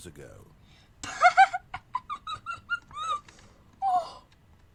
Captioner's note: laughs